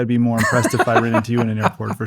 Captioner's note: laughs